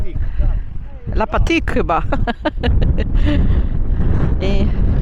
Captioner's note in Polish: śmiech